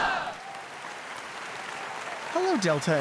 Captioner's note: audience applauds